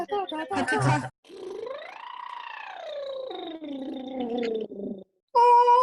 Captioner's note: lips buzzing